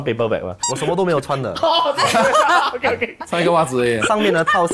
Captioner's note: laughs